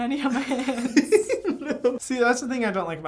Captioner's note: both laughing